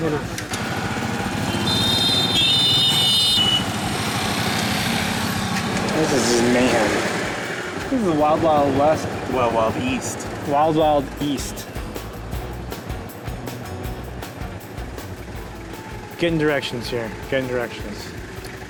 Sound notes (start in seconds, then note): 2.1 horns blaring